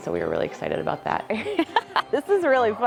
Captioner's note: laughs